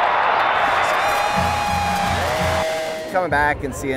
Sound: cheering

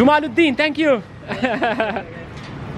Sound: laughs

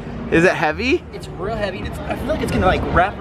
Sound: chuckles

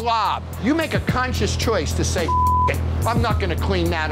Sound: beep

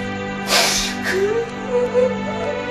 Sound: crying

